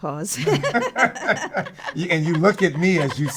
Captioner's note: both laughing